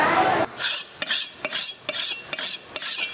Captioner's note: sharpening knife sound